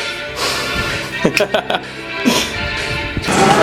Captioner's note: laughs